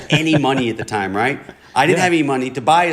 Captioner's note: laughter